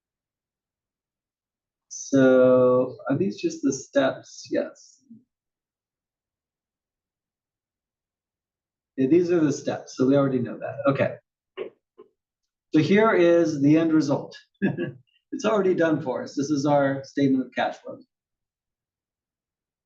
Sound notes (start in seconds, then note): 14.6 laugh